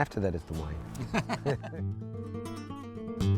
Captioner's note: laughs